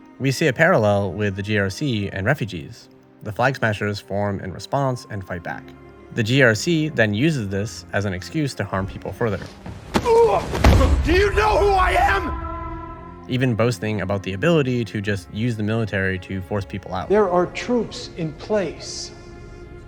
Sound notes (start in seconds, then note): 9.9 Walker, screaming; 10.0 refugee grunts in pain